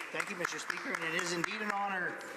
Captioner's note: some Applause